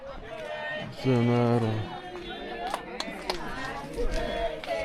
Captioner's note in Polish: Aplauz